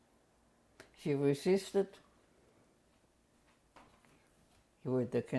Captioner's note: pauses for 3 seconds